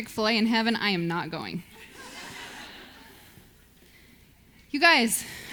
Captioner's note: audience laughs